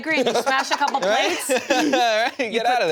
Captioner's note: laughs